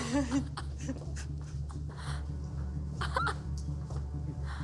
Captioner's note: sobbing